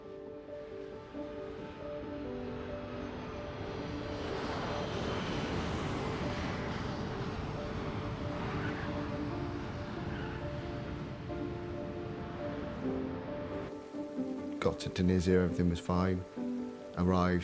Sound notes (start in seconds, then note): 3.1 plane engines roaring; 10.3 tires screeching